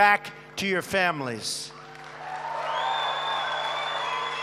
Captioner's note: applause